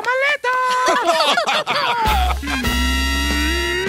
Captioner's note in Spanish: risas